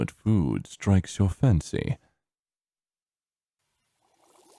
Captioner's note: sizzling, boiling